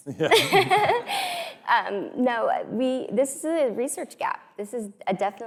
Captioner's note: laughs